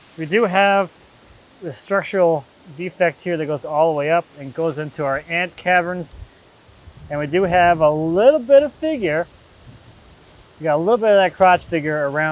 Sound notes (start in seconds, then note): none